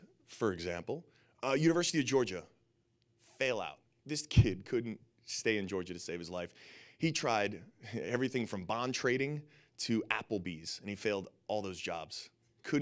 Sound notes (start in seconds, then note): none